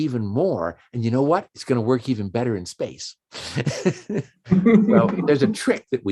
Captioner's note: chuckles